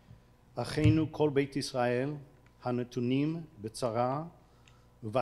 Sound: speaking foreign language

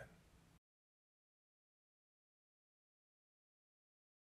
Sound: silence

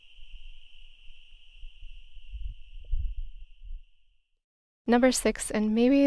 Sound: bug sounds

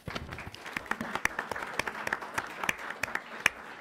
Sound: applause

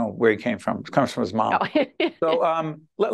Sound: laughing

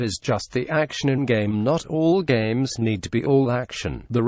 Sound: automated Voice

